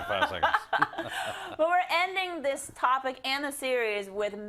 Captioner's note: laugh